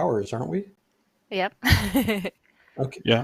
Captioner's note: laughs